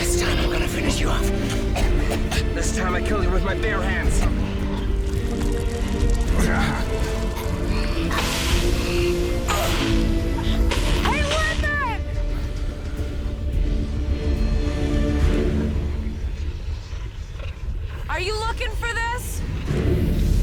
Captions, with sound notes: This time I'm gonna finish you off. This time I'll kill you with my bare hands. (Jack choking) - Hey Littman. Are you looking for this?